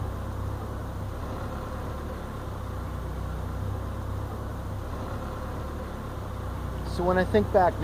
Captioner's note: car tires and engine sounds